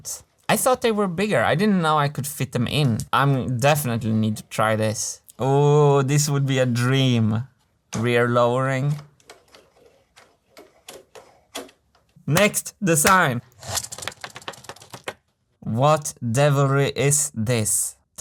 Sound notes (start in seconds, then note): 13.0 claps